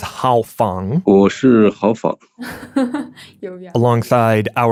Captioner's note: speaking Mandarin Chinese